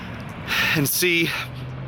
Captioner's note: sigh